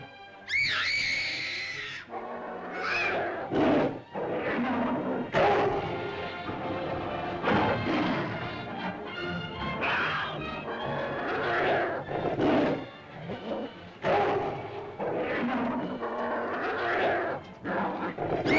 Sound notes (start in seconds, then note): 0.3 dinosaur growls; 0.5 girl screams; 3.5 dinosaur growls & snarls; 3.5 suspenseful music